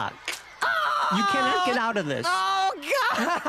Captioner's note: crack; screams